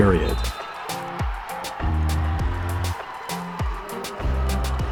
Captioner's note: crowd cheering